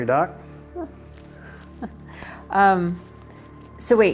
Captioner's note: chuckles